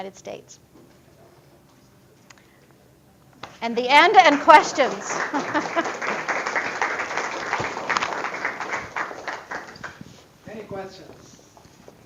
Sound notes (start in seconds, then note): 3.9 applause